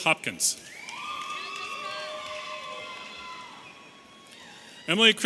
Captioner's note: audience cheering